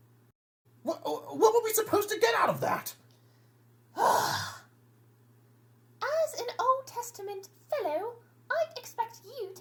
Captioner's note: long sigh